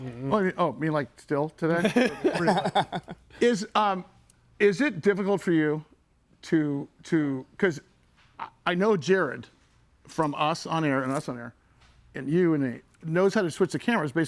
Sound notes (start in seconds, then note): 1.8 person laughs